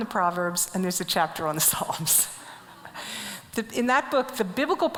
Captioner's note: laughs